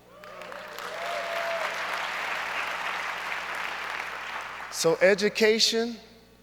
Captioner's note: audience cheers and applauds